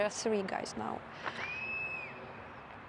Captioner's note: whistling sound